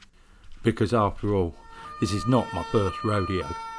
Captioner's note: sirens wailing